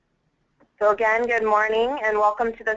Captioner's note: voiceover